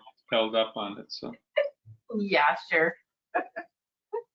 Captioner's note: chuckling